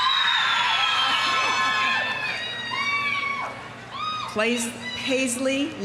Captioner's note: audience cheering; audience applauding